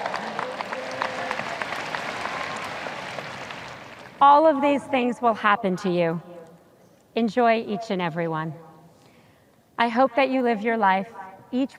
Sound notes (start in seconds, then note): 0.0 audience cheers